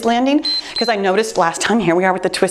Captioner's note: timer beeps